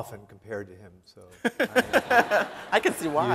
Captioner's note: laughing